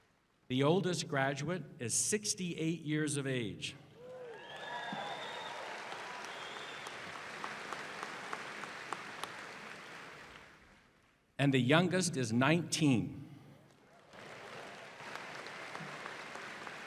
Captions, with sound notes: DEGREES. THE OLDEST GRADUATE IS 68 YEARS OF AGE.[ APPLAUSE ]